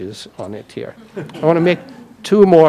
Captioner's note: audience laughing